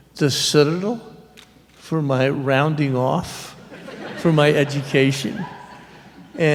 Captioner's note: laughter